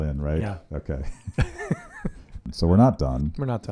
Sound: laughing

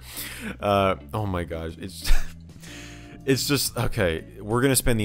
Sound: chuckling

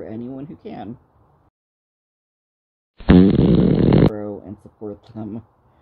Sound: fart noise transition

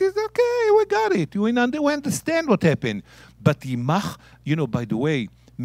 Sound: speaking in Hebrew

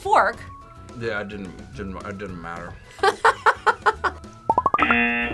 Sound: laughs; buzzer

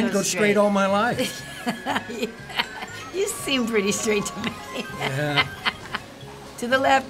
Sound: laughing

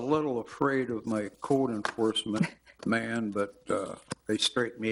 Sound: chuckling

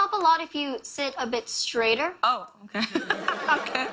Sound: laughter

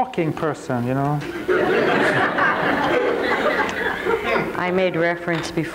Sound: crowd laughing

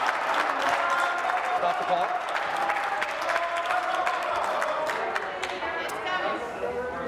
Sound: some Applause

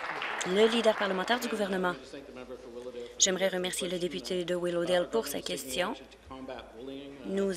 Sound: applause

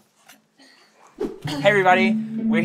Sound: whoosh

